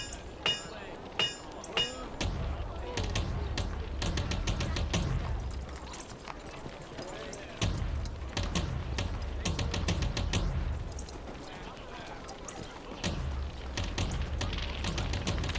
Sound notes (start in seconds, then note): 1.7 dramatic militaristic drumming; 7.5 footsteps